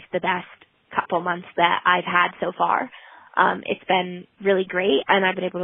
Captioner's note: none